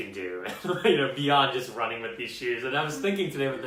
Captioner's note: laughs